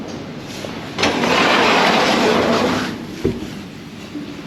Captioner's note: door whirs